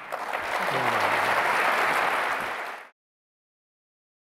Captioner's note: applause